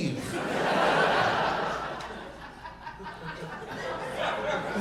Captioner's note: audience laughing